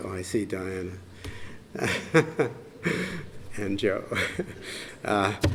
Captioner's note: laughs